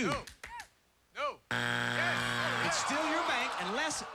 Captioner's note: buzzer